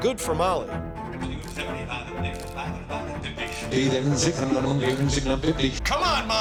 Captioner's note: rapid auctioneering